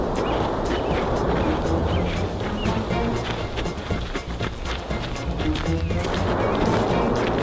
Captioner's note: birds chirping; gravel crunching; uptempo music continues; volcano rumbling